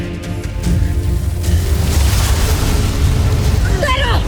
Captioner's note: intense music playing; evil energy whoosh & crackle